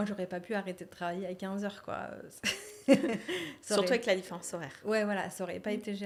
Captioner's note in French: rires